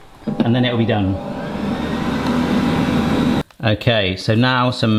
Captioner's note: air fryer humming